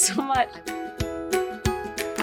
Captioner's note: speaking faintly; upbeat music